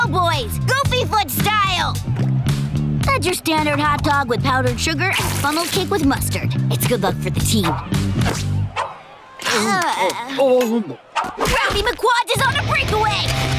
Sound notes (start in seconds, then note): 9.4 groaning